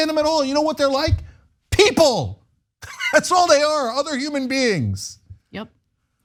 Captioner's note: laugh